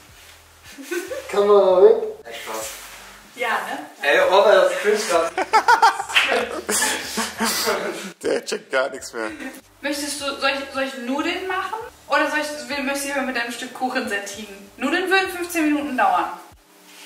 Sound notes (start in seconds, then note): 5.1 laughing